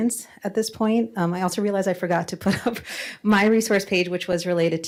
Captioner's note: laughs